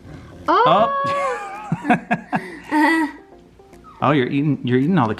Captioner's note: laughing